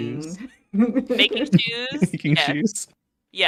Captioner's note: giggles